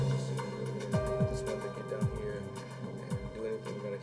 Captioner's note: chatter